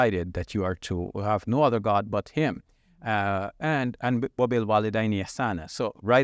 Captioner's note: speaking Arabic